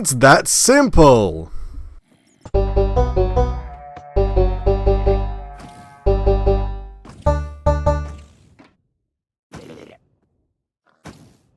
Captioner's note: goat Horn Sound; goat horn sound